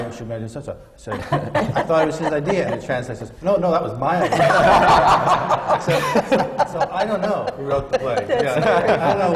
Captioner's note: laughter